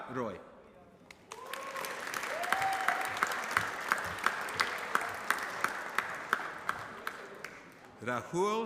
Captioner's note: applause